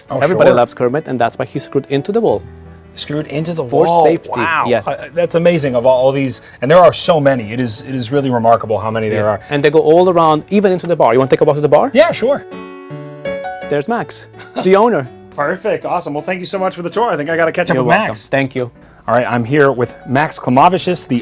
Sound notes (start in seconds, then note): 12.9 light piano music; 14.4 chuckling